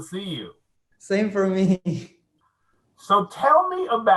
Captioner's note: laughing